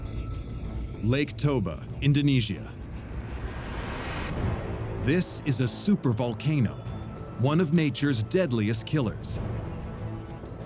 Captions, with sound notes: Lake Toba, Indonesia... [epic music] [birds chirping] This is a supervolcano, one of nature's deadliest killers.